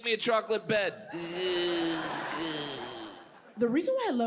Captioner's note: Jim groans